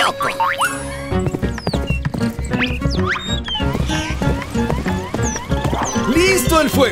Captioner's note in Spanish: Sonido de galope